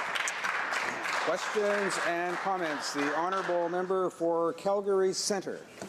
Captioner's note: some Applause